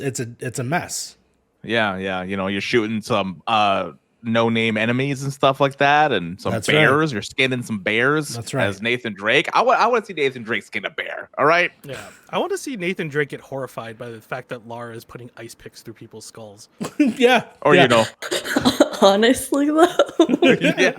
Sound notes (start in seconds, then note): 11.3 laughs; 17.8 laughs; 19.7 chuckles